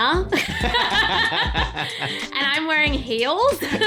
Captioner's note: laughing